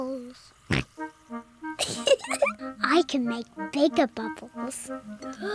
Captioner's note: oinks; giggles; takes big breath